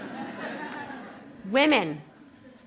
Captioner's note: laughter